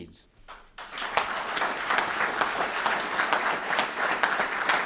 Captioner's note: applause